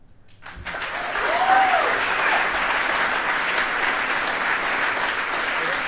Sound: audience applauding and cheering

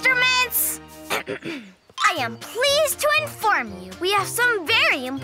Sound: clears throat

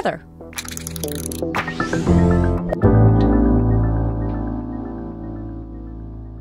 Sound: upbeat music; graphics clicking

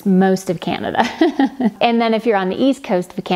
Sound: laughs

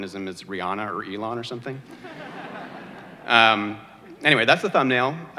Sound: audience laughter

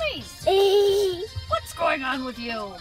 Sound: laughing

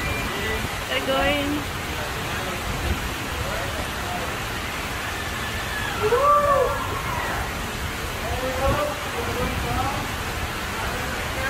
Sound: water flowing

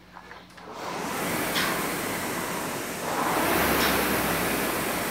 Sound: machine whirring

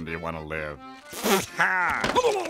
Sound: laughs

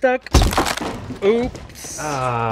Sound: wood cracks

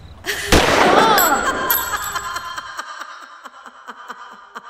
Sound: gunshot; laugh

